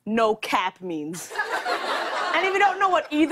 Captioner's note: laughter